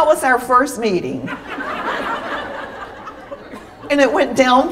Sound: laughter

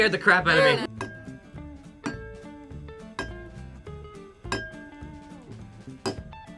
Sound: glasses chiming; glasses chiming

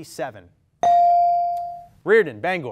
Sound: ding

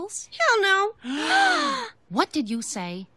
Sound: gasp

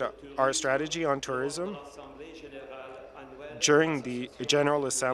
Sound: speaking in French

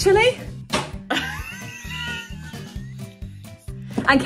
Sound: laughs

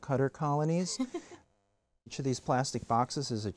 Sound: chuckles

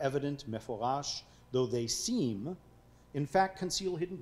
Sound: speaking foreign language

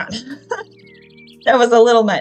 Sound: laughs

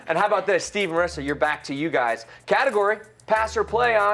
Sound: none

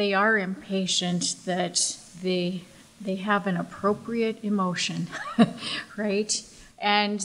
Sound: chuckles

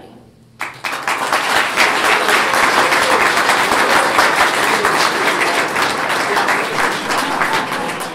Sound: clapping

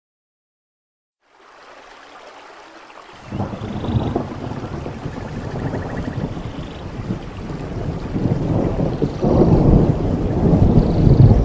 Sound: sound of rain in the rainforest

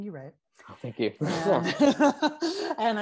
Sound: laughs

